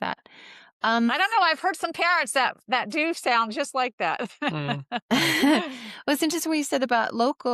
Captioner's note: laughter